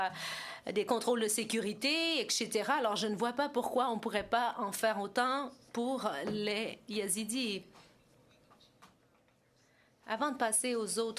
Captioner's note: speaking French